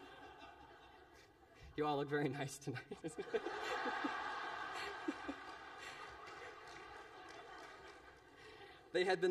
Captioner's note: laughter